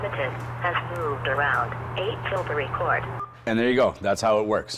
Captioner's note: phone alerting